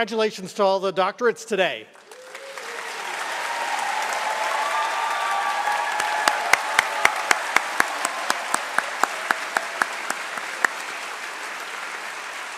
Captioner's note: applause